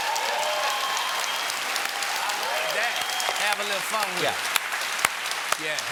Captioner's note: cheers and applause